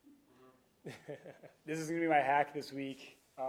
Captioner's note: laughing